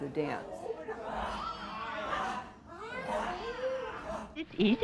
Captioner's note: growling